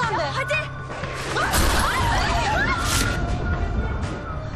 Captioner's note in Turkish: Çığlık atıyorlar